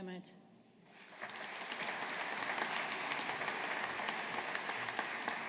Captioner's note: audience applauding